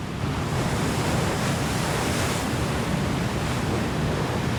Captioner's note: waves crashing